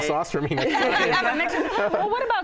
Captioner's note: all laugh